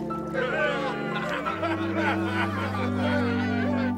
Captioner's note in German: Lachen